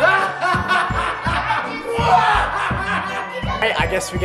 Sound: evil laughing

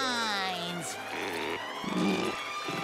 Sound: screaming

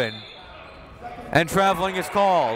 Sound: whistle

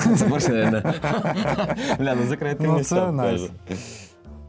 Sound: laughter

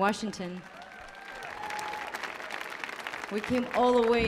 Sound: audience applauding

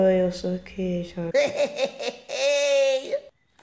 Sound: daddy laughs loud

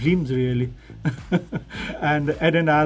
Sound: laughs

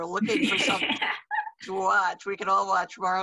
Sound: laughs

